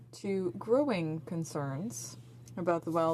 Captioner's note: speaking French